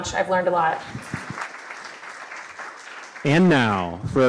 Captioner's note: audience applause